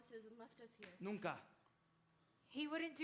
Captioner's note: speaking Spanish